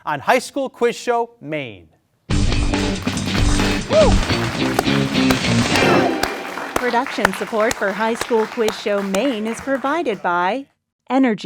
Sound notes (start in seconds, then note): 2.4 exciting music; 2.5 audience applauds; 3.6 student whoops